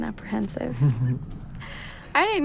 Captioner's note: chuckles